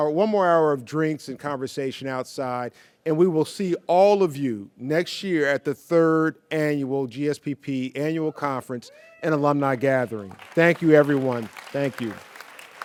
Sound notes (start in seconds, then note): 10.3 audience cheers